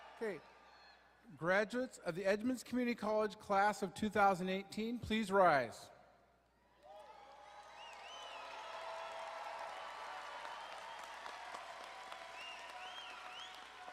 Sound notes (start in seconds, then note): 6.8 crowd cheering